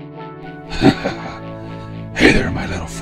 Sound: Batman laughs

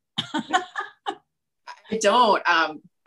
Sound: laughing

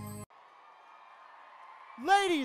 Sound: cheering

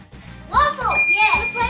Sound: ding

